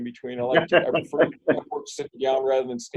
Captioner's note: laughs